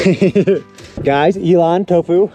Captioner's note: laughs